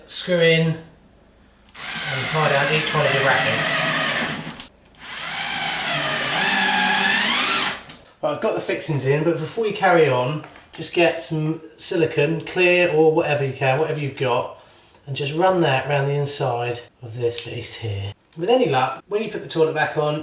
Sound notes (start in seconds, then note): 3.8 drilling sound